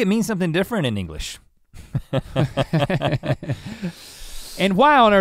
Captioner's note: both chuckle